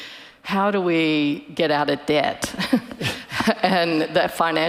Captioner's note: chuckles